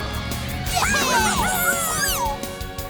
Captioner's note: cheering